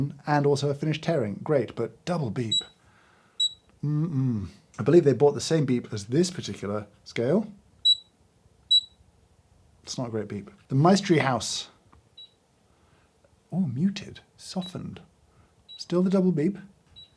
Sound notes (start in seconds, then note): 3.4 scale beeping; 8.7 scale beeping